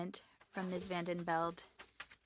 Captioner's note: speaking French